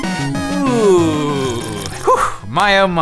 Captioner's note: slurp